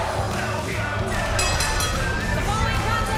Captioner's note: bell ringing